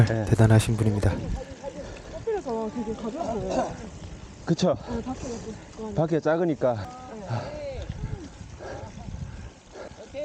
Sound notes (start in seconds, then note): 7.0 out of breath